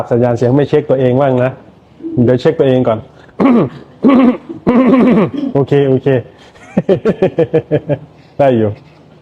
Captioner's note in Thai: เสียงหัวเราะ